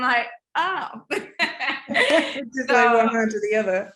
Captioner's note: laughing